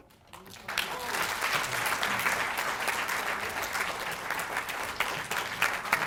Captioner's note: applause